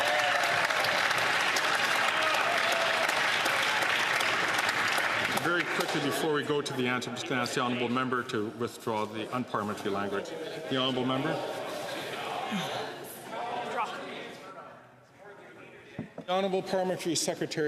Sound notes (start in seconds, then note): 4.9 some Applause